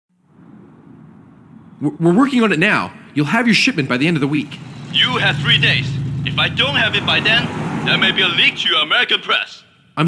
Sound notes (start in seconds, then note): 5.3 on phone